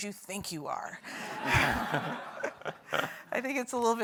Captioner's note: audience laughs